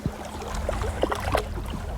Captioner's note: splash